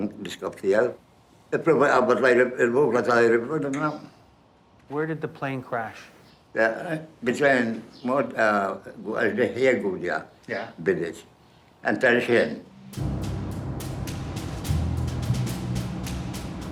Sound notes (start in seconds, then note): 6.7 speaks in foreign language; 12.6 dramatic music